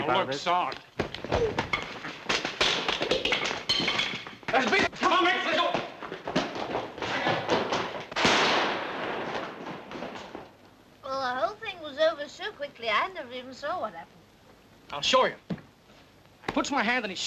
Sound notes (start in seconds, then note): 1.0 fists thudding; 8.1 gunshot bangs; 11.1 slurring